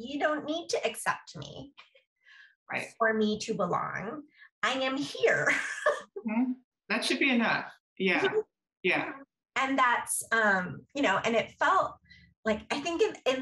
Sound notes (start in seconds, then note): 5.4 laughter